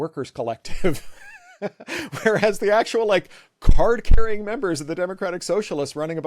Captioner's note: laugh